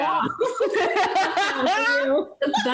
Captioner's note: laughing